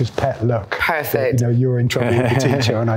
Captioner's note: Nick laughs